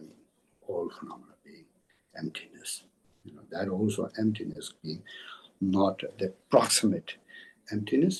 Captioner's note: tibetan